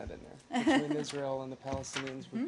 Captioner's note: laughter